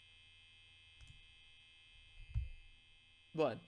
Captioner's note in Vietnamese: im lặng